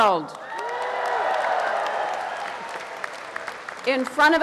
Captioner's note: audience applauding